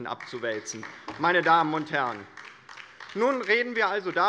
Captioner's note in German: Beifall der Abg